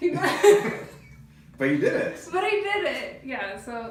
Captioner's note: laughs